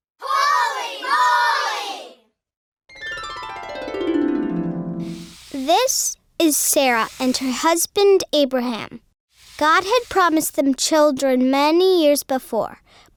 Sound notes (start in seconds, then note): 2.9 harp music; 5.5 voiceover